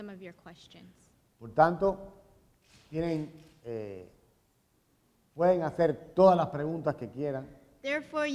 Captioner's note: speaking in Spanish